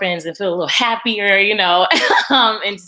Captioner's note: laughs